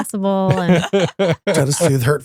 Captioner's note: laughing